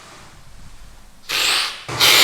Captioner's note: sips